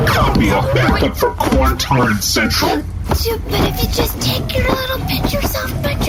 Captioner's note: rasping